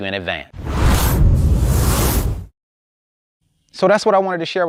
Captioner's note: electronic whooshing